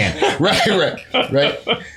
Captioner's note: laughter